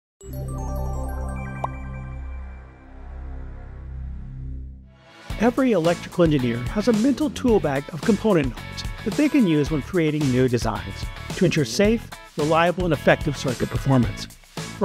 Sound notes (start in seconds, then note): 0.2 energetic music; 1.5 graphic popping; 4.8 upbeat music